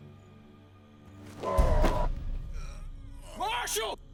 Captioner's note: Benny growling